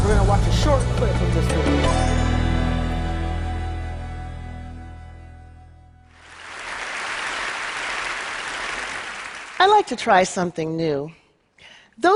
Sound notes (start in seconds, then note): 6.1 crowd clapping